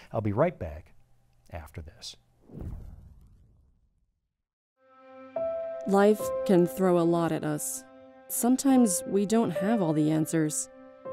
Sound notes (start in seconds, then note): 2.4 transition whooshing; 4.9 calming piano music